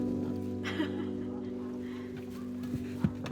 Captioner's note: guide laughing